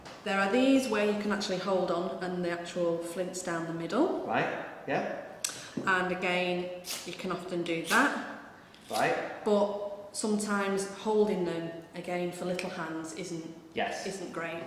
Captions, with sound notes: There are these where you actually have to hold on and the flints down the middle. And again. [spark noise] you can often do that But sometimes holding them again for little hands isn't great